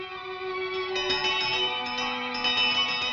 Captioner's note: rings